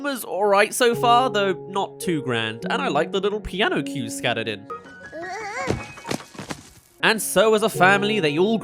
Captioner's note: stumbling